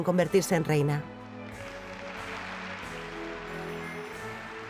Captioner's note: applause